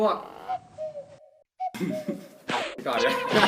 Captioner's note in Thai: เสียงนกร้อง